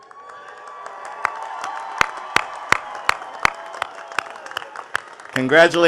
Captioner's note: attendees cheering and clapping